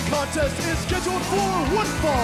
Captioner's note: bell ringing